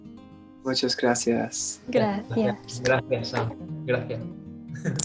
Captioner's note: in Spanish